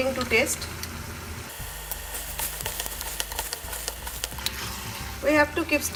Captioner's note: chicken slightly sizzles